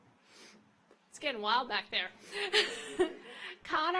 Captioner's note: laughs